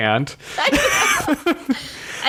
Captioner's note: laughs